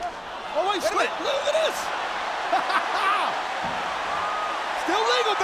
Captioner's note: laugh